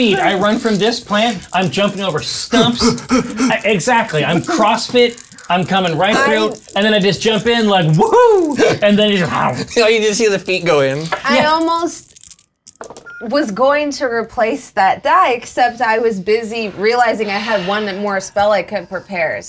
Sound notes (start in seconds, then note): 2.5 panting; 9.1 chomps